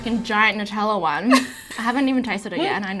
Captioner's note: laughs